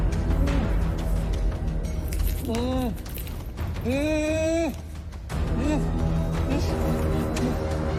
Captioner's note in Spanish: Quejidos ahogados